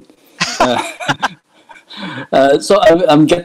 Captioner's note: both laughing